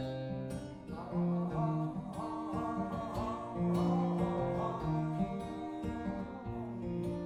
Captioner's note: humming